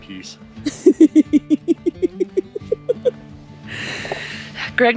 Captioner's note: laughing in background